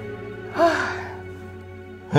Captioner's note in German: Erleichtertes Seufzen